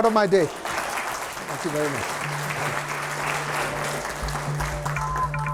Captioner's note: attendees applauding; light energetic music